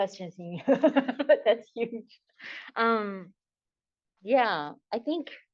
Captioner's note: laughs